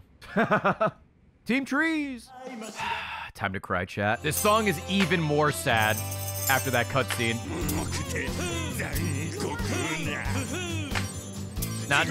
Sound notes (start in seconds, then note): 0.2 laughs; 2.4 sighs